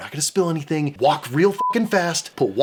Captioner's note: beeping